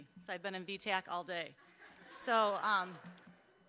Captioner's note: audience laughing